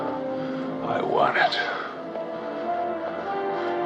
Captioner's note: breathing hard